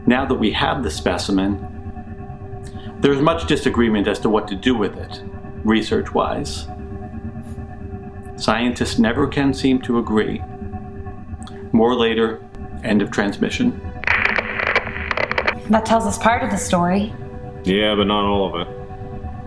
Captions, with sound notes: Now that we have the specimen, there is much disagreement as to what to do with it, research-wise. Scientists never can seem to agree. More later, end of transmission. (static crackling) (static hissing) - That tells us part of the story. - Yeah but not all of it.